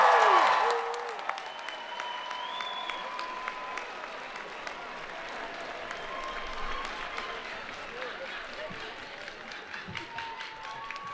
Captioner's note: cheering and Applause